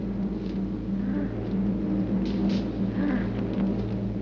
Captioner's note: mother moans